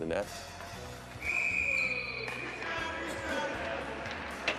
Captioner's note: whistle blows